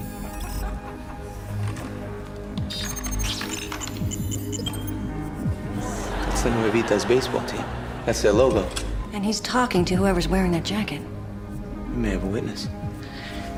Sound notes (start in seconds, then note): 0.2 chuckle; 2.6 beeps; 5.7 laughter